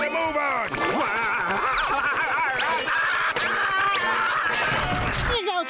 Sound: screaming

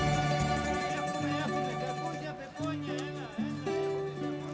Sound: indistinct chatter in distant

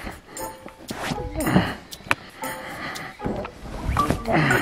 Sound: grunts

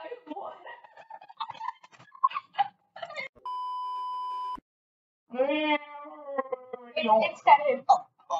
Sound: laugh

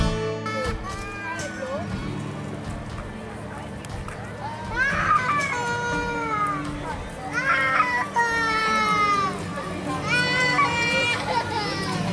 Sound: voices, baby crying

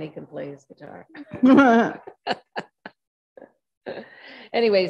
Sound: group laughs

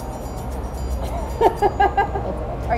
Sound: laughs

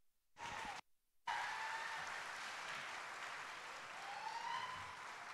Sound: audience cheering

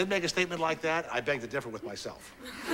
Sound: class laughs

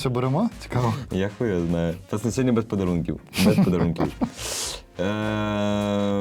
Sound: laughter

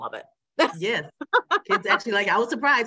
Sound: laughs

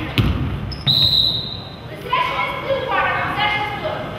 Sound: whistle blows

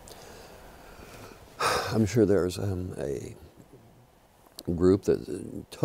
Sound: sighs

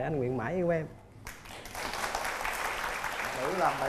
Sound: applause

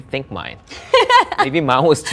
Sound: laughs

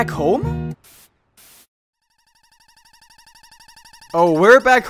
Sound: Mushroom light / mouse sound effect, slowed down

